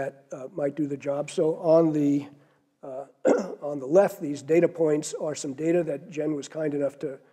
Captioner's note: cough